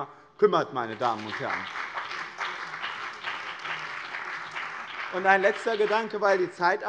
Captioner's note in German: Beifall bei dem BÜNDNIS 90/DIE GRÜNEN und der CDU